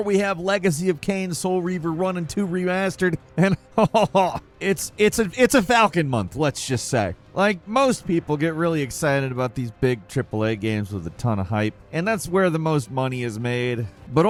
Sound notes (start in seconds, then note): 3.3 chuckles